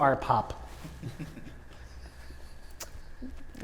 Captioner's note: chuckling